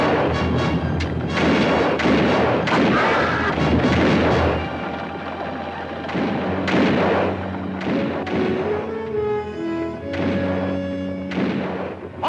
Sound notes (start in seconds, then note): 1.1 guns fire; 2.9 Apache screams; 7.1 guns fire